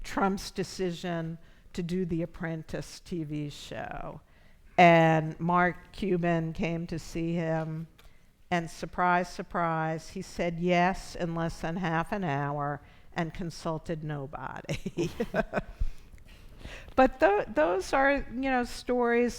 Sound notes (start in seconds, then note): 14.7 chuckles